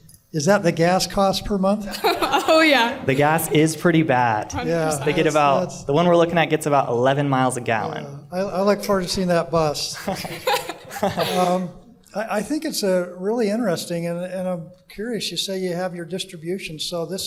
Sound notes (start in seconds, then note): 1.8 laughter; 9.9 laughter